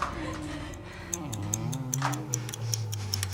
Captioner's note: animal-like gnarling